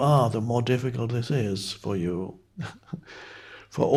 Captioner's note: chuckles